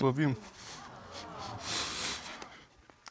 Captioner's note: both sniffle